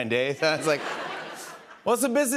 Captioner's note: laughter